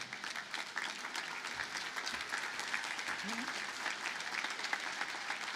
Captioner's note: audience applauding